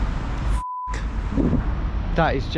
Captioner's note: beep